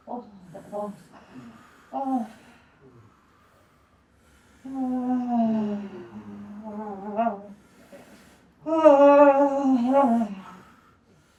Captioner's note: moaning